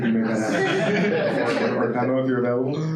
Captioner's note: laughing